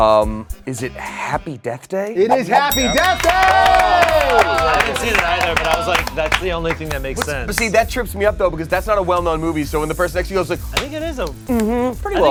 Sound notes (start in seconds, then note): 3.8 all cheering; 4.6 applause